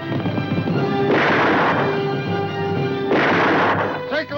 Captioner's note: gunshots